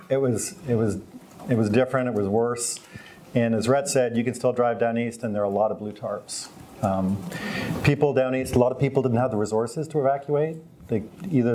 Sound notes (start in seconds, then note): none